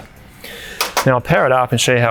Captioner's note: metal sound